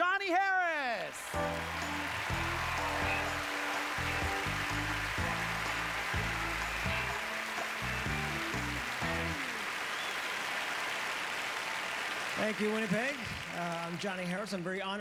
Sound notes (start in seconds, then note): 0.8 applause